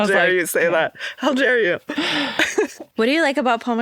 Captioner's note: chuckles